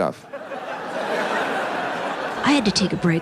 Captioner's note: audience laughs